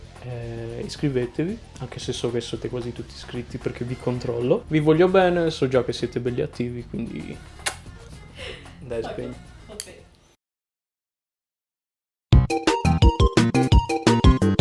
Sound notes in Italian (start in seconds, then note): 7.6 smuack